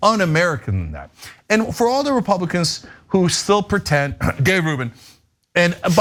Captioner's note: cough